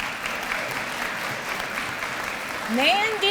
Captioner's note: applause